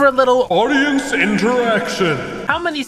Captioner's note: announcer Voice